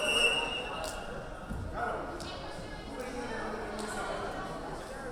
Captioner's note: whistle blowing